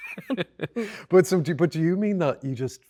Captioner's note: both laughing